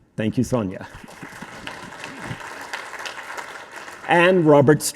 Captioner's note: audience applauding